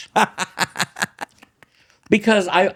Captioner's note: laughs